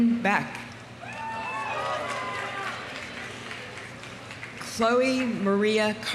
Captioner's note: audience cheering; audience applauding